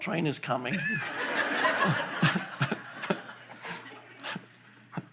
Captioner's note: audience laughing